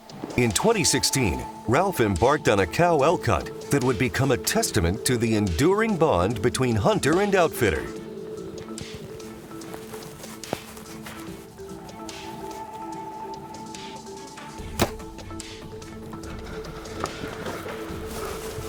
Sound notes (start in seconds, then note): 9.8 suspenseful music continues; 14.6 bowstring thuds